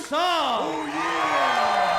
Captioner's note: applause